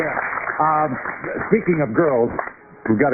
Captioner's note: applause